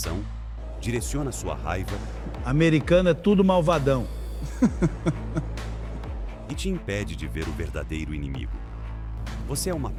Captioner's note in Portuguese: risadas